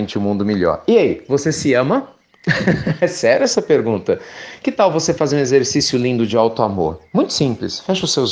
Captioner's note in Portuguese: Risos